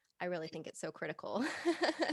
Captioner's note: laughing